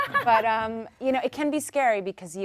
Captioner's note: panel laughs